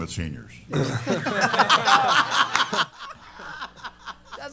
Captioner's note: laughter